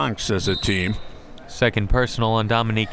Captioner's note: whistle tweeting